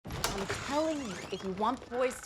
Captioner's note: door creaks